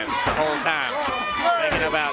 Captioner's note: crowd cheering